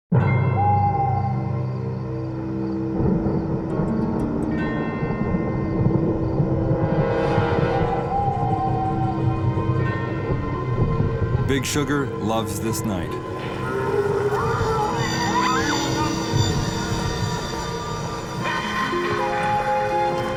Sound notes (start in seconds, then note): 0.3 suspenseful music; 0.4 owl hoots; 13.3 ghouls growling; 13.7 ghouls chattering